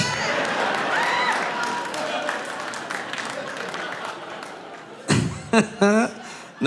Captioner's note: audience applauding; audience laughing